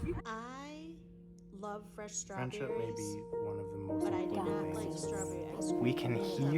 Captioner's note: indistinct chatter